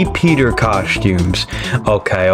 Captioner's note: inhales Oxygen